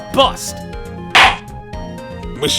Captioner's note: gavel slams!